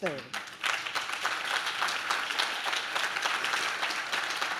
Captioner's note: audience claps